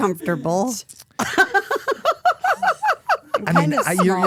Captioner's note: Stephanie laughing